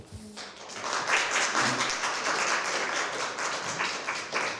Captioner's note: applause